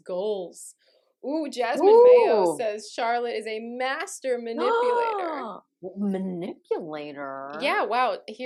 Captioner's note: gasps